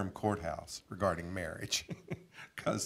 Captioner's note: chuckling